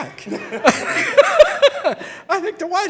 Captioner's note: all laughing